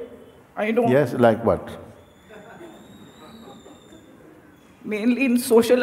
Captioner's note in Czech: smích